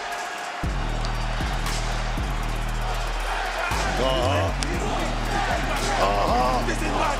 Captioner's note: crowd chants